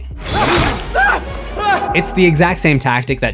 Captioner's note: screams